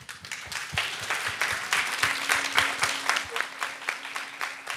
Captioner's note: audience applauds